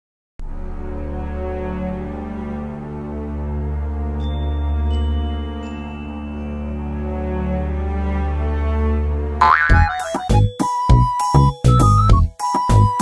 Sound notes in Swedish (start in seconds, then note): 9.4 boing; 10.7 glad musik